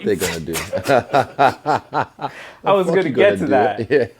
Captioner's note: both laugh